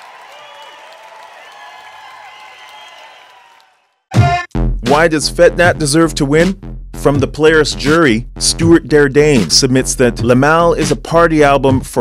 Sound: cheers and applause

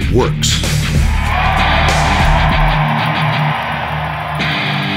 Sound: cheering

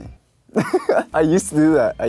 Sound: he laughs

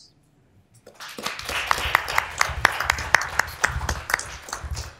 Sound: applause

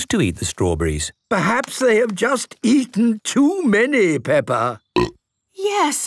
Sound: burp

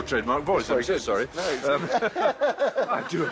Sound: all laugh

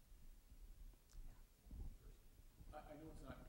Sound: echoing voice

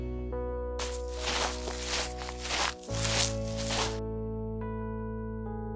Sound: footsteps

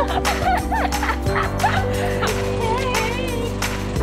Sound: laughing

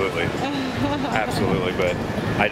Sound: laughs

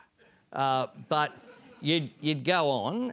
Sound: laughter

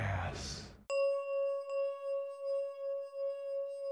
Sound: chiming

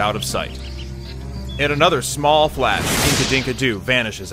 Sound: music fades out; woosh

